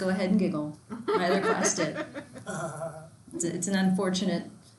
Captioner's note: laughs loudly